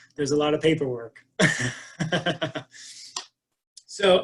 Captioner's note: laughs